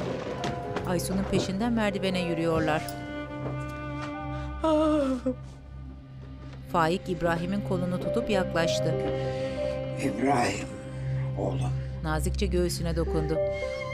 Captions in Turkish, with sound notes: (Müzik - Duygusal) (Aysu ağlama sesi) İbrahim, oğlum.